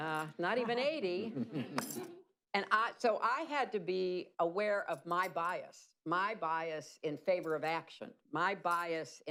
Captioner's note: laughter